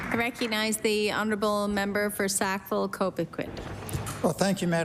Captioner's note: applause